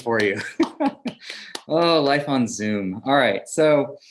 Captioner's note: laugh